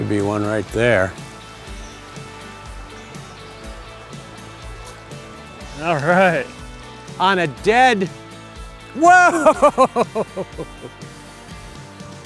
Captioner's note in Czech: smích